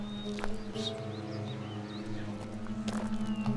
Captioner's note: low whistle